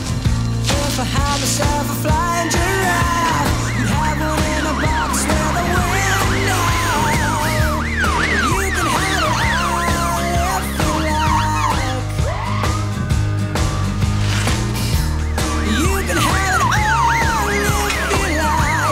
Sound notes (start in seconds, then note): 6.7 siren blaring